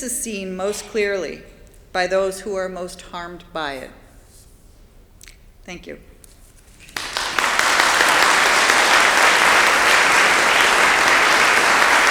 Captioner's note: applause